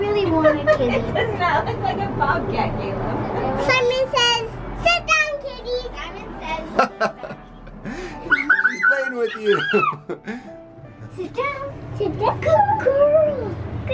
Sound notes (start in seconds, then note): 2.0 laughs; 6.7 laughs; 8.2 scream